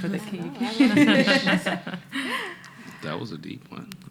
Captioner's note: laughing